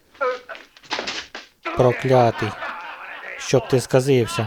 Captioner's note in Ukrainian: Сміх